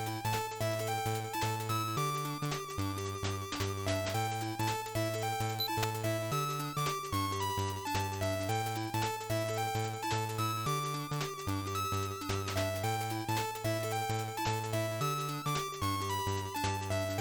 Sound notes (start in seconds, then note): 5.6 click click